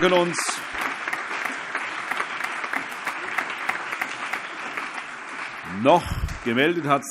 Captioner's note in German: Allgemeine Beifall